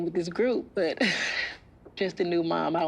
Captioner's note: laughs